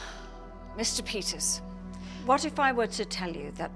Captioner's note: sighs